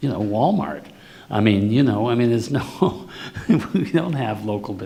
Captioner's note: laughs